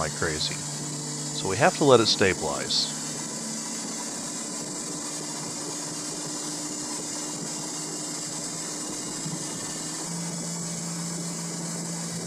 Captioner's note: engine & spinning noise